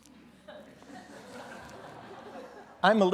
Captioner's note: laughing